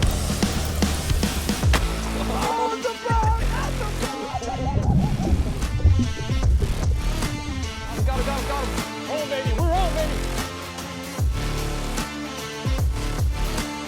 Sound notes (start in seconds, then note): 1.2 water splashing; 1.7 fish splashing; 2.1 person laughing; 4.9 bubbles burbling